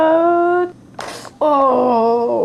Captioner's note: thud